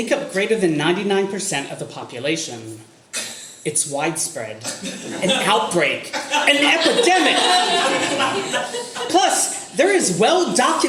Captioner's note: audience laughter